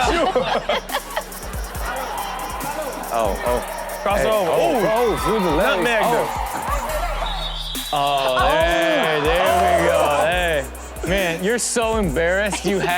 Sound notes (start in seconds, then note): 0.0 everyone laughs; 7.7 whistle blows; 10.8 laughs